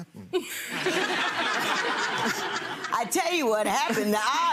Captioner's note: people laughing